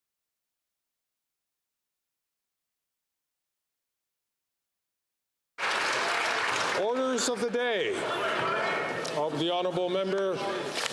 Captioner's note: some Applause